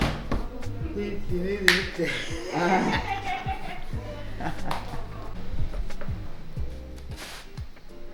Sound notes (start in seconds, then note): 2.5 laughing